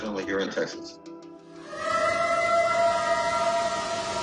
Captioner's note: eerie howl